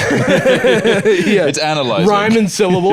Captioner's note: both laughing